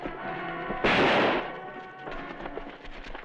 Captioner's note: gunshot